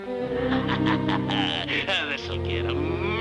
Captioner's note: somber playful music; tense music; farmer laughing